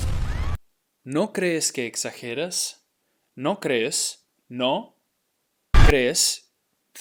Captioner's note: speaking in Spanish